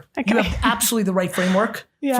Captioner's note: laughing